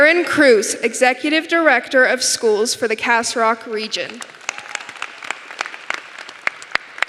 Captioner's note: applause